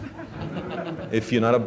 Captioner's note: laughter